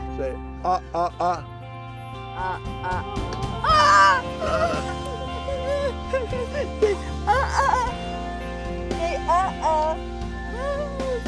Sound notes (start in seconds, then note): 2.8 screams